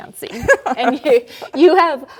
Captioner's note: laughing